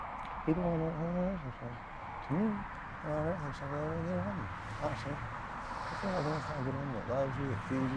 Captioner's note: talking to himself